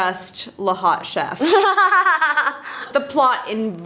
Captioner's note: laughter